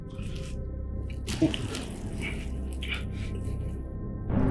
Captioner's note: muffled grunting and clanging of chains; suspenseful music builds